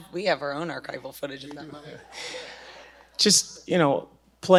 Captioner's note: audience laughing